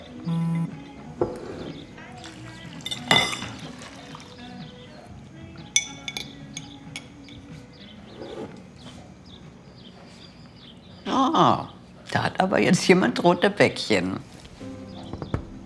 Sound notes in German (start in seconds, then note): 0.2 Handy vibriert; 5.8 Gemächliche Musik; 8.1 Vogelzwitschern